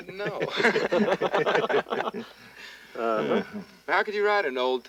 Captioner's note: men laughing